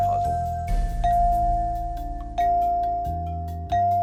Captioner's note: successive dinging